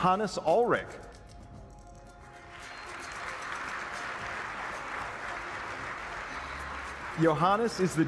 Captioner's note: applause